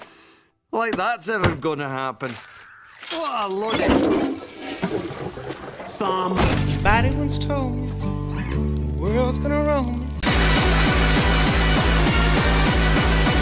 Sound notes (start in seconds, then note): 3.7 toilet flushing